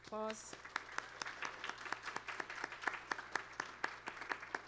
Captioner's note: applause